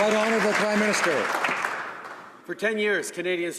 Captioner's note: applause